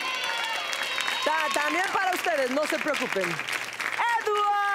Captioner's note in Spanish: Aplausos